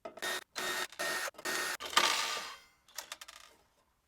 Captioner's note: power drill whirring